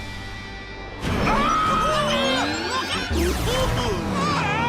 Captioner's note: screaming